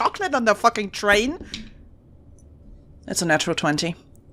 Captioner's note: dice thunks